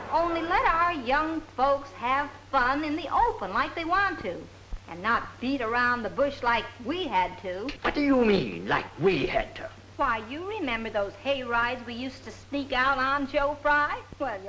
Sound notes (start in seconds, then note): none